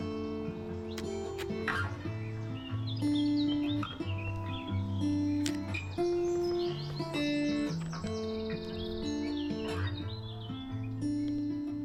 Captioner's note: birds chirping